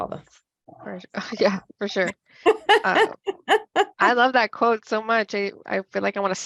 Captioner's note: laughs